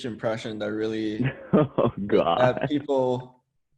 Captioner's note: laughs